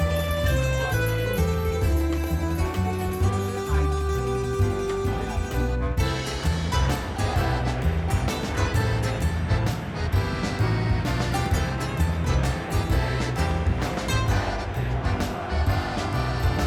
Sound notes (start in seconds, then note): 1.2 players chatter; 4.1 coach chatters; 6.3 crowd cheers; 8.4 wistful music continues